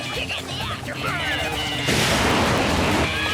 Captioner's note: engine roars